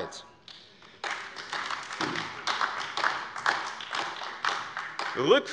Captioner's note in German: Beifall AfD